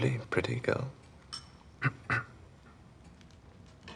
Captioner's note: clearing throat